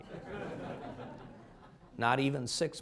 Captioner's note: laughter